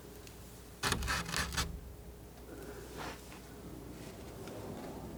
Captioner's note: scratching